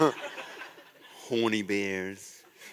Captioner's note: laughter